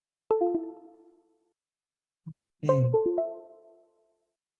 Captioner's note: notifications chiming